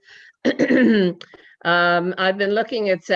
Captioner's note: clears throat